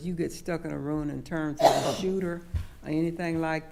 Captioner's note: coughing